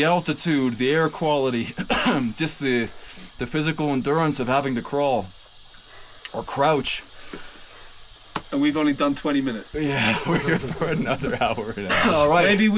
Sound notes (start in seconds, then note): 1.7 coughs; 8.3 hand pats